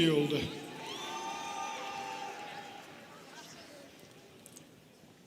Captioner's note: students cheering